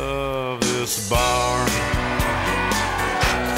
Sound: patrons cheer

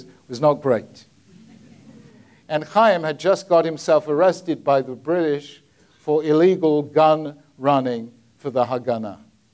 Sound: audience laughs

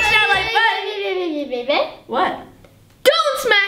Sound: babbles

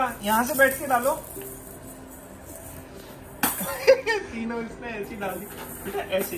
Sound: laughing

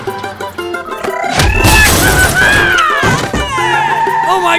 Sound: yelling

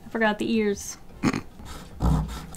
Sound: snort

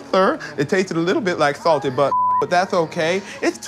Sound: beep

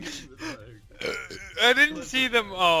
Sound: burp

